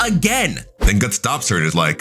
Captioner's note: air whooshing